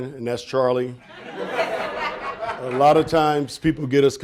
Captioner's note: audience laughing